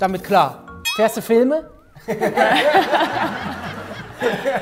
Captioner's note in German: Lachen